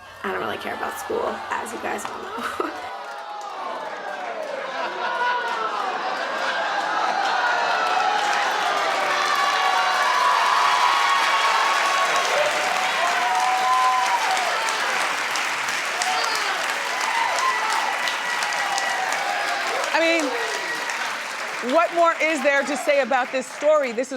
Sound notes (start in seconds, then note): 3.1 audience groaning; 8.6 audience laughing